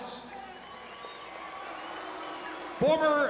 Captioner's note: crowd applauding; crowd cheering